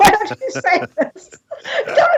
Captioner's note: laughter